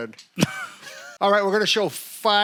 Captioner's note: chuckle